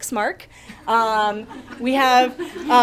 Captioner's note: audience chuckling